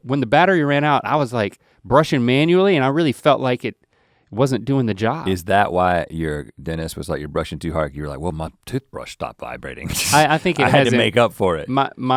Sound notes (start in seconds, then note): 9.8 laughs